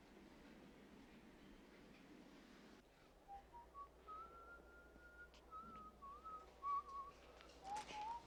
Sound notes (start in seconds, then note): 3.2 Nick whistling